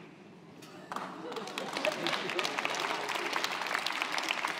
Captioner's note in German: zögernder Applaus